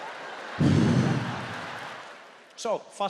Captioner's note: audience continues laughing; Trevor breathes out